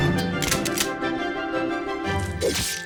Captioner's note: cocks gun